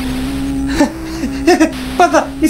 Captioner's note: laughs desperately